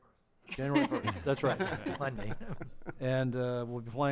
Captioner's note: members laugh